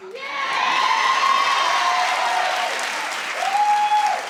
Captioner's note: audience cheering